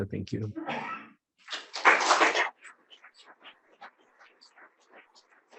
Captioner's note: audience applauding